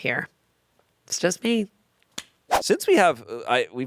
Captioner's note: transition whooshes